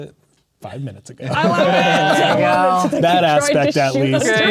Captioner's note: players laughing and talking at once